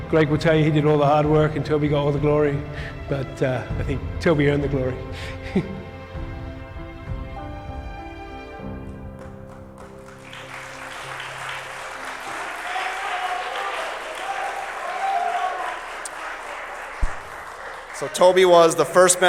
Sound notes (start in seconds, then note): 4.8 applause